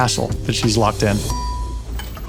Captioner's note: elevator bell dings